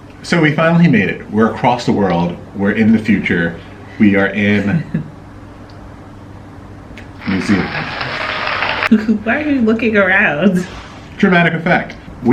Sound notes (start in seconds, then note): 7.2 cheering